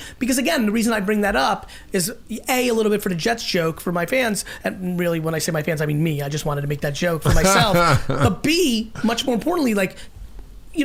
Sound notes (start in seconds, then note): 7.2 Mark laughing